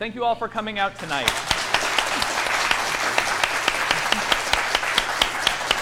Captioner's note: audience applauds